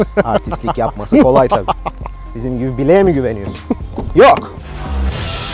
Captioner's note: laughs